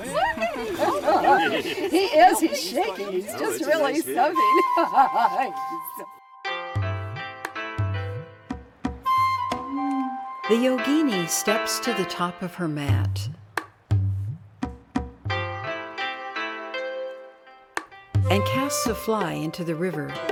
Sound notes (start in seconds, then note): 4.4 friend laughing; 4.4 gentle music; 15.3 gentle music